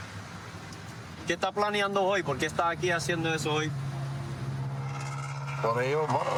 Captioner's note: speaking spanish